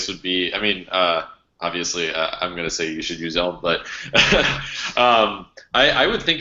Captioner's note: laughs